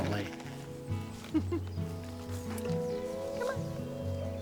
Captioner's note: laughs